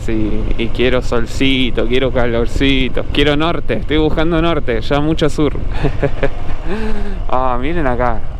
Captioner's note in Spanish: risas